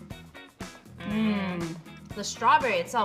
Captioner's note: moans